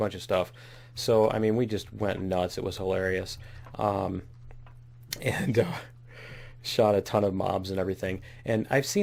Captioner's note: laughs